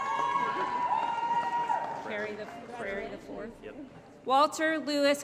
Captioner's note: applause & Cheering